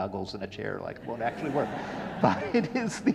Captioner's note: audience laughing